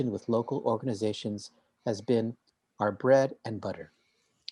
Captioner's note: none